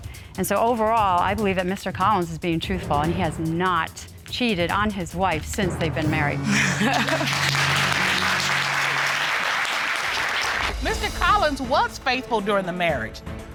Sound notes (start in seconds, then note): 6.5 laughs with relief; 6.5 applause